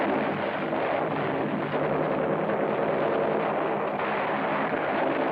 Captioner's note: machine gun firing